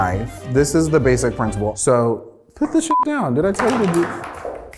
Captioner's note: beep